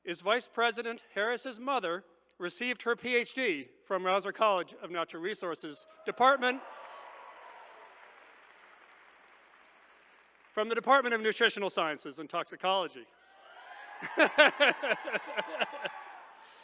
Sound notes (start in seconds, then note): 6.0 attendees applauding; 13.2 attendees cheering